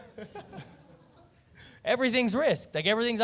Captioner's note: laughter